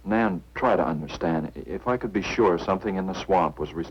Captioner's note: none